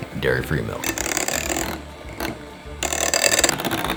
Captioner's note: mixer running